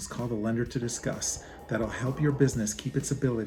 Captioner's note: desert wind blowing